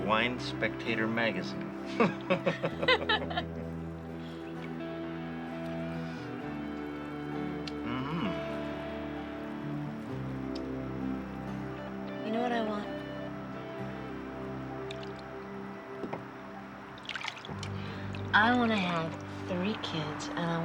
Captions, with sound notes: of Wine Spectator Magazine. (both laughing) Mm. - You know what I want? I wanna have three kids,